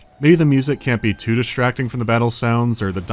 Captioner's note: none